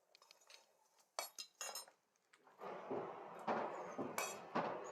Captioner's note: tools clatter